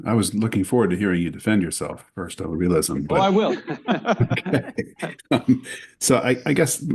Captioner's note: laughter